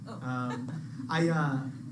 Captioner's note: laughs